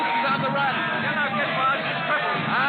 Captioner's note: cheering